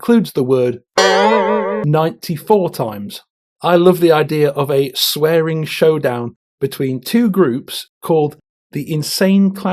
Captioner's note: boing